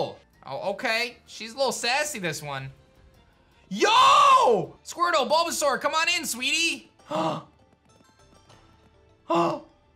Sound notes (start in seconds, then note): 7.0 gasps; 9.2 gasps